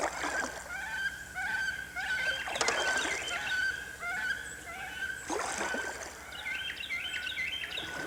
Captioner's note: birds chirping